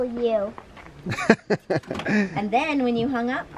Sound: laughing

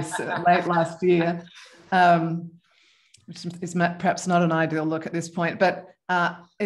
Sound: laughter

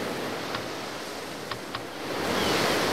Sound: sounds of clicking, waves crashing

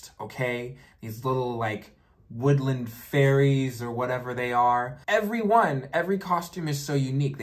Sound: none

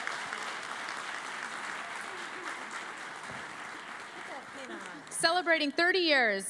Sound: cheering and Applause

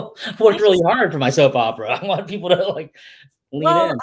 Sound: laughs

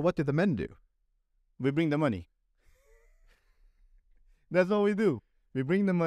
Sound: laughter

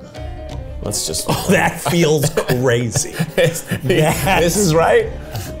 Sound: laughs

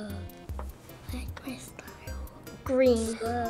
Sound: whispering

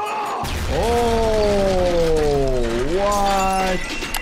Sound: bomb explodes; person screams

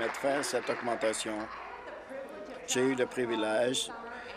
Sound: applause

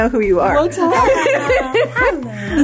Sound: group laughs

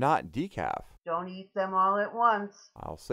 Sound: voiceover

